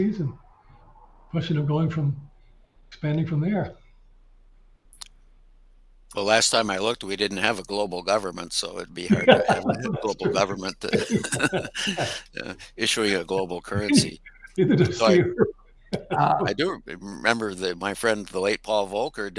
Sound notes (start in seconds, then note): 10.8 chuckles; 10.8 panelists chuckling